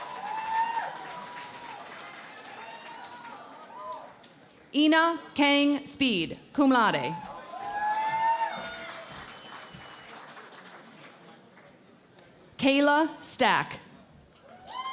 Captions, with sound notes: [ Cheering and Applause ] Inhwa Kang Speed, cum laude. [ Cheering and Applause ] Kayla Stack.